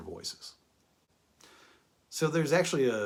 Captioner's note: pause